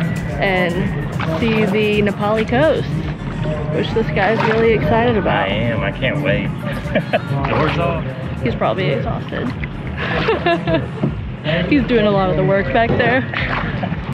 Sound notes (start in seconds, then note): 6.6 laughs; 10.0 laughs